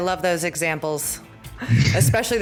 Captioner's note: laughter